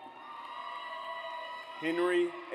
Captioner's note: audience cheers